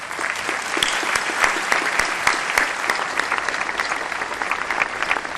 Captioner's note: applause